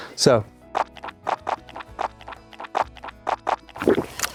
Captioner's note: gulping